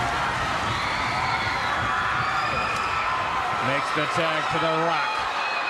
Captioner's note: crowd cheering